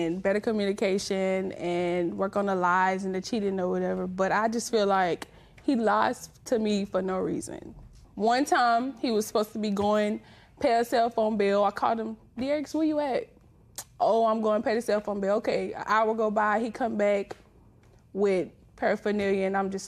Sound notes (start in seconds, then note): none